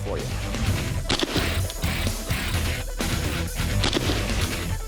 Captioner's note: hard rock music; gunshot; gunshot